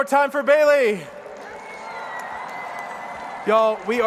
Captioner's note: crowd cheers